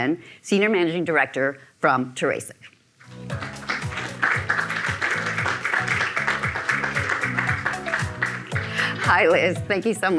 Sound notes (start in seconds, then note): 3.2 audience clapping; 5.9 upbeat music